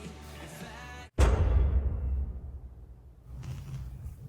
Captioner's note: metallic thud; electric crackles